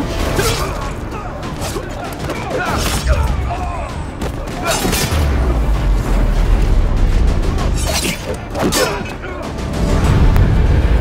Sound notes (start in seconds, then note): 0.3 grunts; 2.1 all grunting